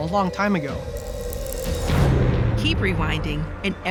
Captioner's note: ticking